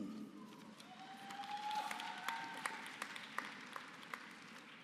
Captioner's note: applause